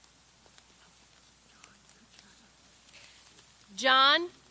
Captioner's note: whispers